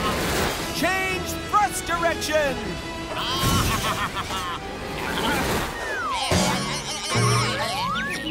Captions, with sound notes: Change thrust direction! [bleating] [bumping]